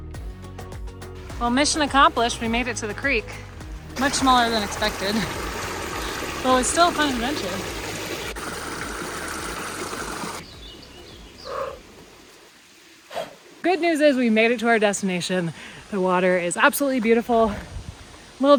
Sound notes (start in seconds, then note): 8.5 rushing water; 11.5 Camper barks